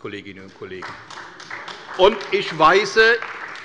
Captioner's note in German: Beifall bei der CDU